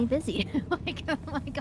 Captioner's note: laughs